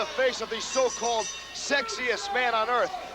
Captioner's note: bell ringing